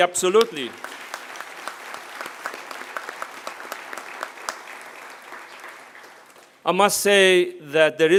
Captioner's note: applause